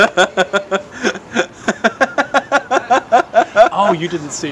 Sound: laughter

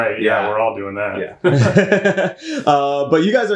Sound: laughs

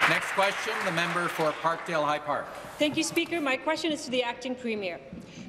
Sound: applause

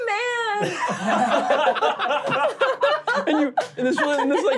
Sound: laughing

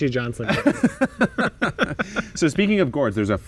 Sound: both men laughing

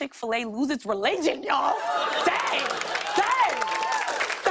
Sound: applause

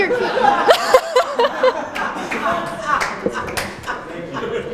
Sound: laughter

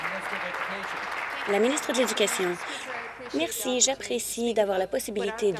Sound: applause

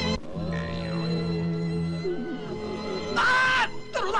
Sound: moaning

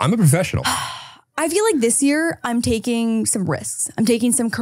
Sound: sighs

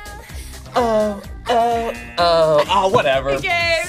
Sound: buzzer

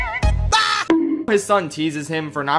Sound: bonk

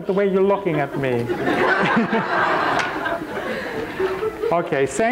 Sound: crowd laugh

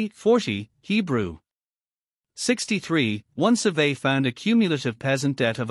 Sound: Hebrew

